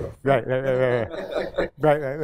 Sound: laughter

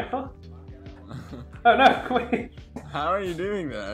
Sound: slight laughter

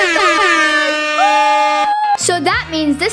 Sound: screaming

